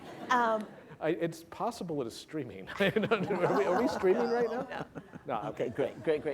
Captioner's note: laughter